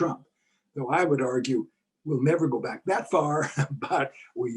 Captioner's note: laugh